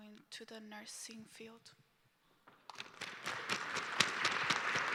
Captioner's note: applause